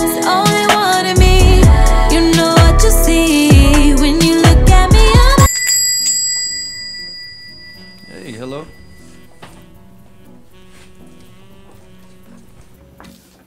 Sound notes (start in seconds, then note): 5.4 bell ringing